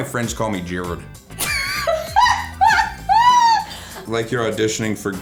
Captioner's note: laughs